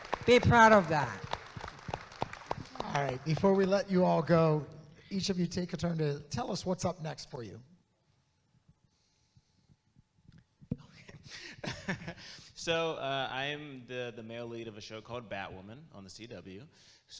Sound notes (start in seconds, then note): 0.0 audience claps; 11.5 laughs